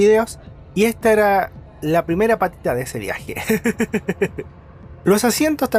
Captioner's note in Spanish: risas